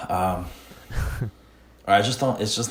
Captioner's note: laughs